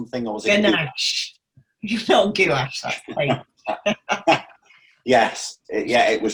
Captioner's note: both laugh